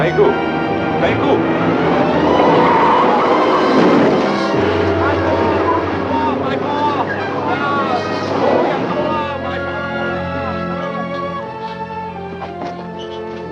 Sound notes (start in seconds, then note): 0.1 speaks foreign language; 2.8 tires squeal; 3.7 clattering; 6.5 chattering in foreign language; 9.8 tense instrumental music